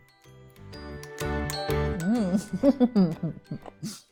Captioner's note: chuckles